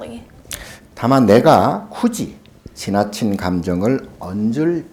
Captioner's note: speaking Korean